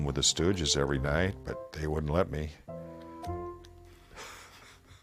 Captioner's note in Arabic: يضحك